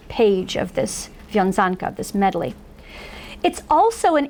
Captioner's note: foreign language